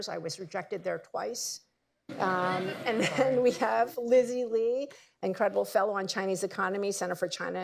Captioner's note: laughter